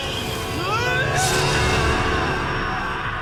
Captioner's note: NEVlLLE YELLS